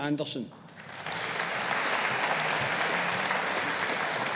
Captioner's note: audience applauding